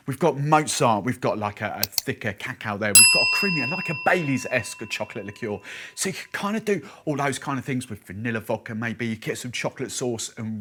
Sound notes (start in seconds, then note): 2.9 bell dings